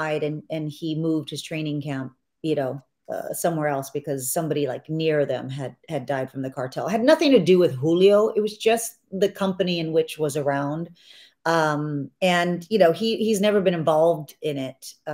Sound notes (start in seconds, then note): none